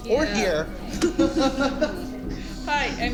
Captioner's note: chuckles